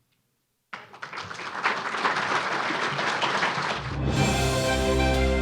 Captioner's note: applause